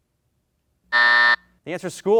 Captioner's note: buzzer sounds